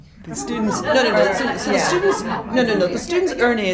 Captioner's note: crowd chatters